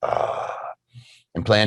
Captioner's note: growling